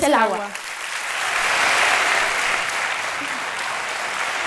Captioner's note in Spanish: Aplausos